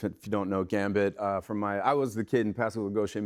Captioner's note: none